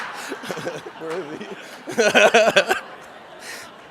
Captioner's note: laughs; audience laughs